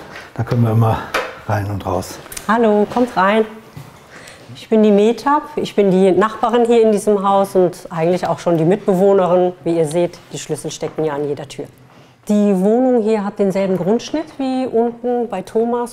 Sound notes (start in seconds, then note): none